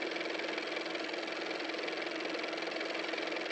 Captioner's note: car motor